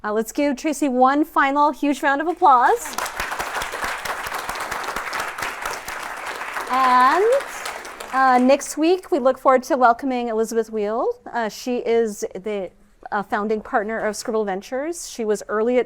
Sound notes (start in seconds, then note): 2.2 applause